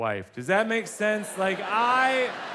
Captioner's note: audience laughs